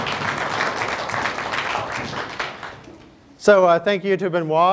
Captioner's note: applause